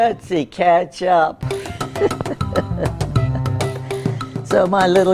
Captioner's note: she laughs